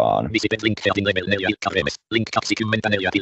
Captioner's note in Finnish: ruudunlukijan puhetta